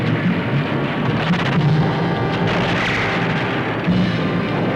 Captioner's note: gunshots